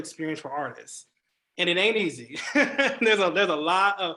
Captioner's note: laughs